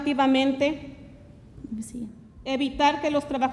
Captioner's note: speaks Spanish